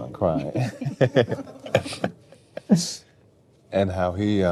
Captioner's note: laughing